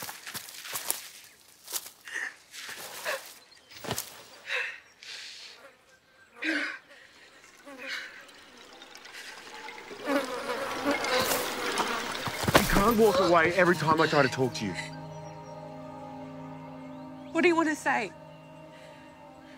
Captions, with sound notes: [sobs] [insects buzzing] You can't walk away every time I try to talk to you. What do you want to say?